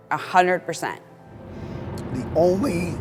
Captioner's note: wind blowing